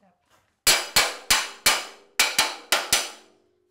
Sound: hammer banging

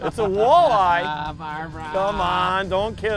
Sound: laughs

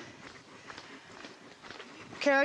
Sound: sound of footsteps

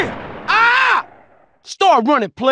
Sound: Busta yell

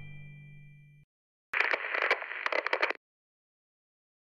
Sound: crackling

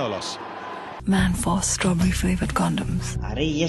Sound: ad playing on TV

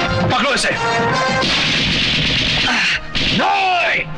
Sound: hand Machine Gun Firing

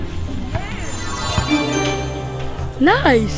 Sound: magic chime

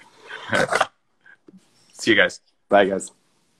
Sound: laughing

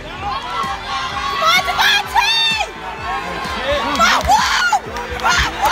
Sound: cheers

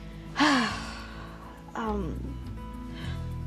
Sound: sighs

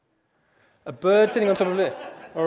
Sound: audience laughing

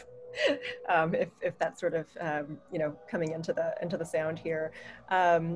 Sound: laughter

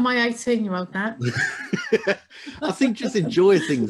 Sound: laughs

